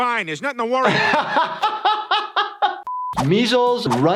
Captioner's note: he laughs